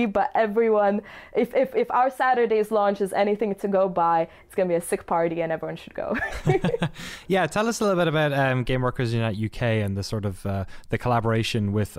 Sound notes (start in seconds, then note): 6.1 laughter